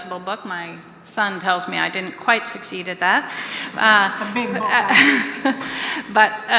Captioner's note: audience laughter